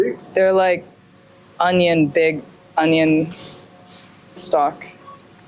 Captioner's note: German